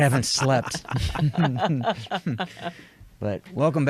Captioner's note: all chuckle